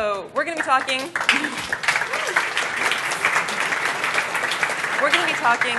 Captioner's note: applause